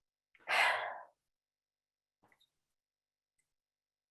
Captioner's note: exhaling sharply